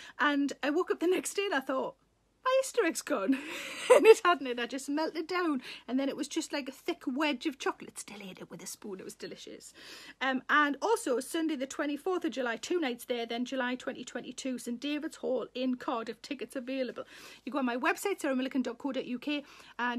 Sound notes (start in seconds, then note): 3.2 Sarah laughs